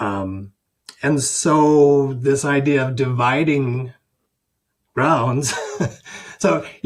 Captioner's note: chuckles